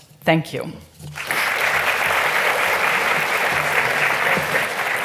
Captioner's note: audience applauding